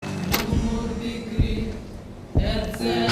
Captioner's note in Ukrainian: чутно звуки прильотів на фоні